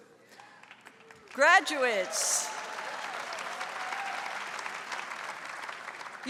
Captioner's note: audience applauds